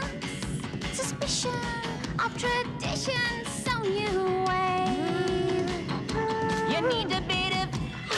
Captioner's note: Стонет